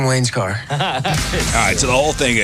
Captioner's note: laughing